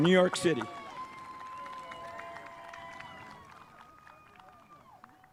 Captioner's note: spectators applauding